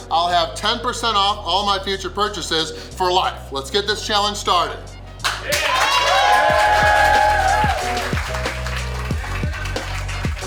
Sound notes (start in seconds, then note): 5.2 crowd cheering